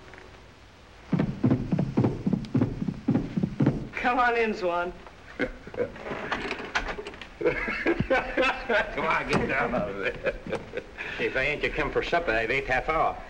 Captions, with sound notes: COME ON IN, SWAN. ( laughing ) COME ON, GET DOWN. WHY AIN'T YOU COME FOR SUPPER? I WAIT HALF-HOUR.